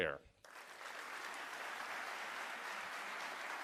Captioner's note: applause